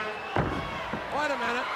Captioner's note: body thuds